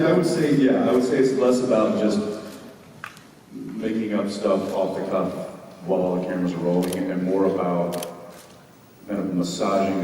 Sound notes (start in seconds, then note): none